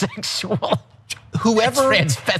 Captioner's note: laugh